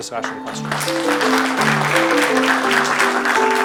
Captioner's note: applause